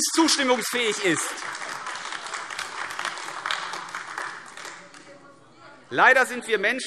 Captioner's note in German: Beifall AfD